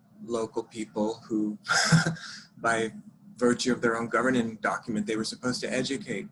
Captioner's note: laughs